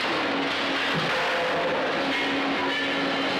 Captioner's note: metal clanking